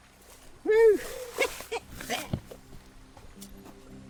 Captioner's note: laughing